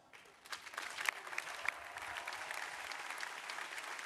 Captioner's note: crowd applauding